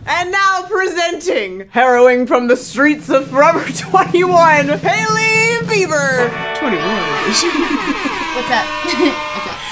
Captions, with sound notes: - And now presenting, heroine from the streets of Forever 21. (drum roll) Hailey Bieber! (cheering) - What's up? What's up?